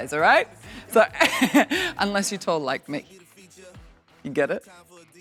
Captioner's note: laughs